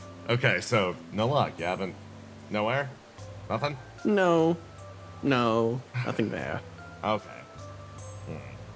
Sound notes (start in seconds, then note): 6.0 sighs